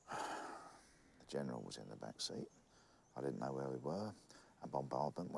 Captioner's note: sighs